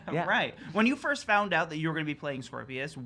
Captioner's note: chuckles